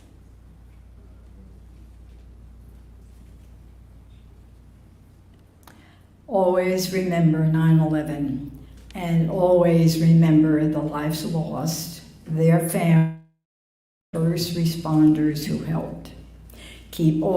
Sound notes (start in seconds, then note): 2.9 moment of silence